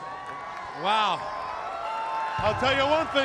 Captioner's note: crowd cheering